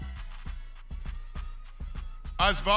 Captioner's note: crowd cheering